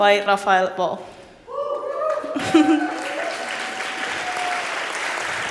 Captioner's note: cheering and applause